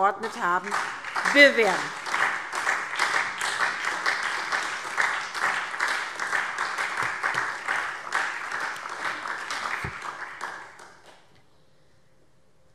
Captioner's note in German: Beifall SPD und DIE LINKE